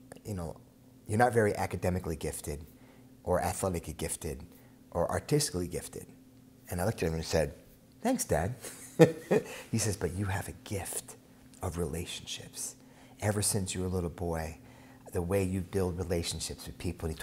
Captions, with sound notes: "You know, you're not very academically gifted, "or athletically gifted, or artistically gifted." And I looked at him and said, "Thanks, dad." (laughs) He says, "But you have a gift of relationships. "Ever since you were a little boy, "the way you build relationships with people."